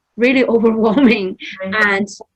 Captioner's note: laughs